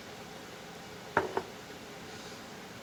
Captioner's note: screwdriver clunks